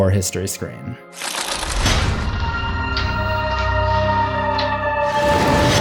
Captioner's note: pages flipping and eerie music